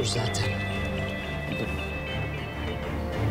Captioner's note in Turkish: Telefon çalıyor